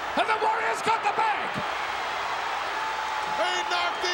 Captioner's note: crowd cheering